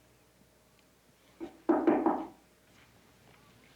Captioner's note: knocking on door